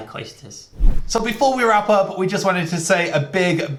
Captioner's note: swoosh